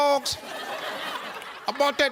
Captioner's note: audience laughs